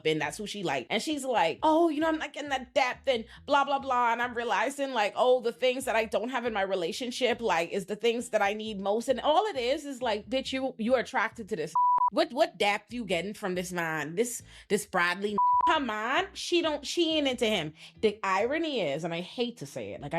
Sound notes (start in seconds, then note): 11.7 beep; 15.3 beep